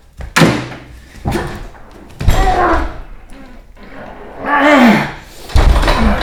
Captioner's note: manny strains and groans